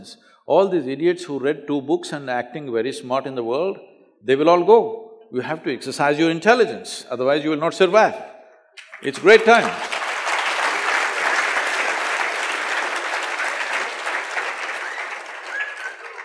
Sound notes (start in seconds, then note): 14.1 applause